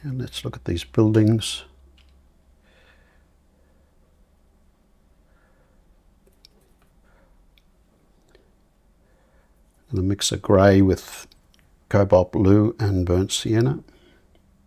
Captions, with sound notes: And let's look at these buildings. [silence] And a mix of grey with cobalt blue and burnt sienna.